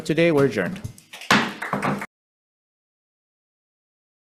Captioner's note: gavel bangs